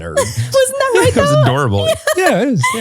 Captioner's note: laughs